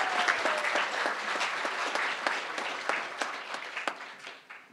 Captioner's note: crowd applauding